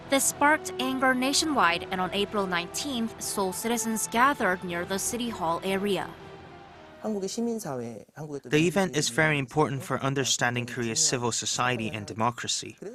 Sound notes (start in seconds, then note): 6.5 Korean